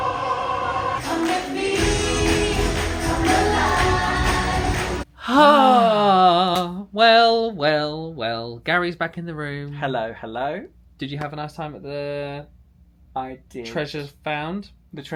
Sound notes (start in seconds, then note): 5.1 sigh